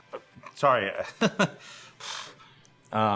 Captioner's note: laughs